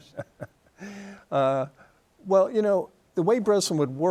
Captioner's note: chuckles